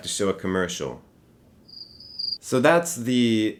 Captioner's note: crickets chirping